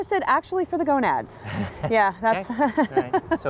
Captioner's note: laughs